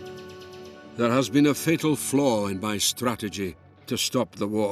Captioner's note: Voz en off